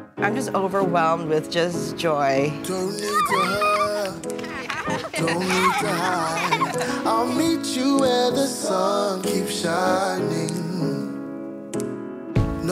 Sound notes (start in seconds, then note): 3.0 kids cheering; 4.3 family giggling